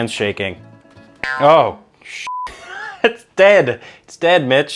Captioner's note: beep